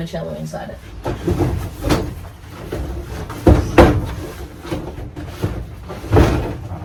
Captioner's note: more heavy thumping and sliding